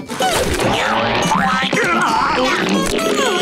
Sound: grunting

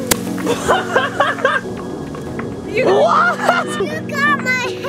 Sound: laughs

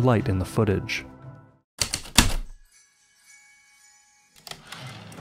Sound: typewriter keystrokes, light chimes, typewriter return slide

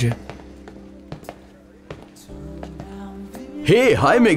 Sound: footsteps

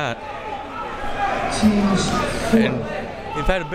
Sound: crowd members shouting

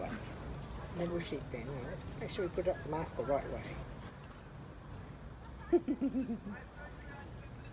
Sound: giggle

